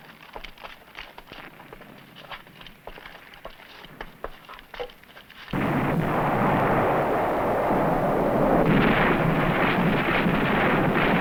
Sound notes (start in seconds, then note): 5.5 blasting